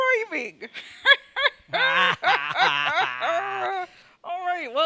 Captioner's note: Leia and Luke cackle obnoxiously